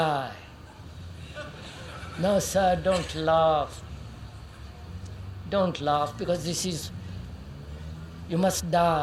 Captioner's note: laughter